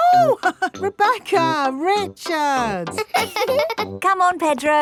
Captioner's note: laughs; chuckles; both laughing